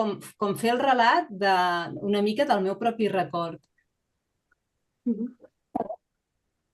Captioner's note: continues speaking in Catalan